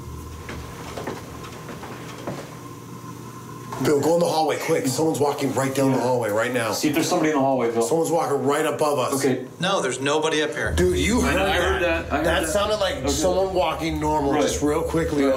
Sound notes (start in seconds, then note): 0.5 footsteps